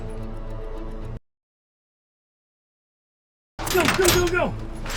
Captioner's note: gun firing